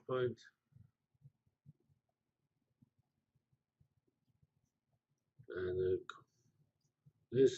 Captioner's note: pause